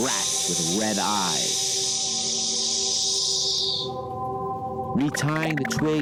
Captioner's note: snake hissing